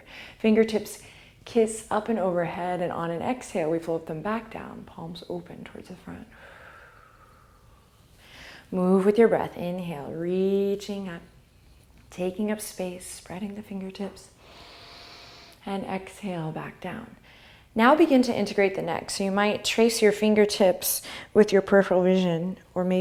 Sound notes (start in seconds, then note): 6.4 exhale; 14.4 inhale